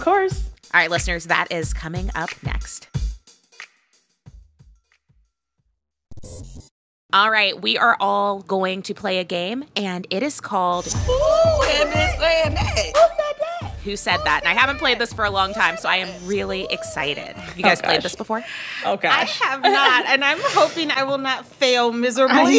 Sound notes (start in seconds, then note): 10.6 soundbite of tv show, "the real housewives of atlanta"